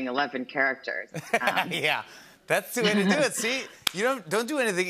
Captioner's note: laughs